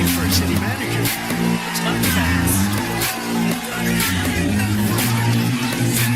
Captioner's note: Aplauze